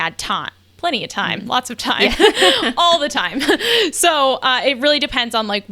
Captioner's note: laughing